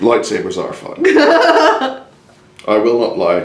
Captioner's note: laughs